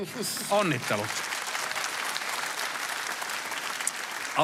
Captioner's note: applause